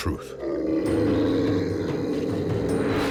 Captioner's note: Cerberus growls